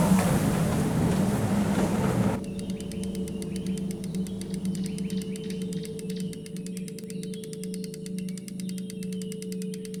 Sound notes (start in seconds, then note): 2.5 fishing rod clicking; 2.6 birds chirping